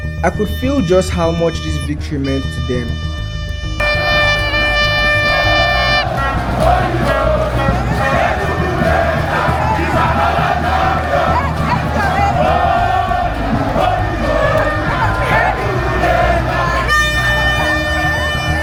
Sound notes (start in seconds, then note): 3.8 Enugu Rangers chant